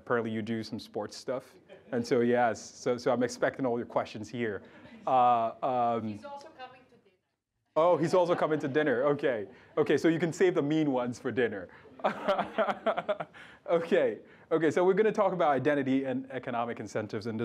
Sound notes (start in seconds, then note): 11.8 laughs